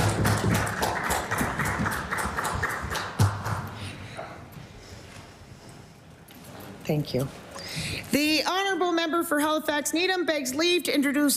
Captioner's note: applause